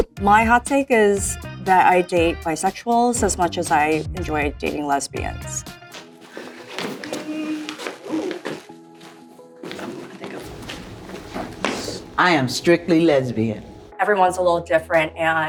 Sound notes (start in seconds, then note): 5.9 shoes thudding